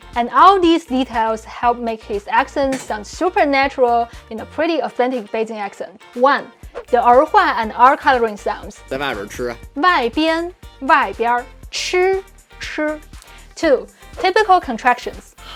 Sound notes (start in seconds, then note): 8.9 speaking in Mandarin